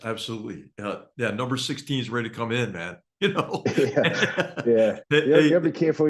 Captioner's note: laugh